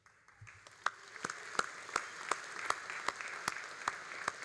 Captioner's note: all applauding